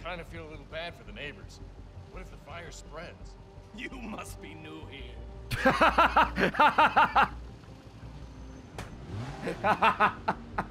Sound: laughs

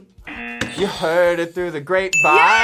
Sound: buzzer rings; buzzer; bell rings

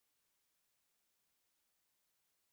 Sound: yelling

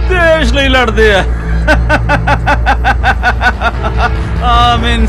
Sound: laughter

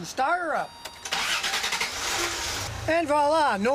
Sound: engine starting

